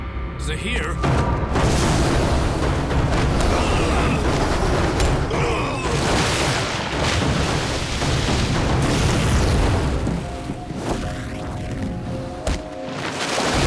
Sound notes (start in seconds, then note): 3.3 groaning